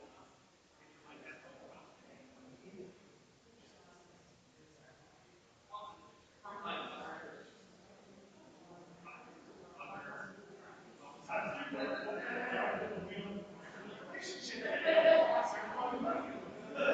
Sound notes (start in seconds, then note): 7.7 people chattering distantly continues